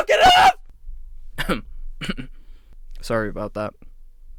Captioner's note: coughs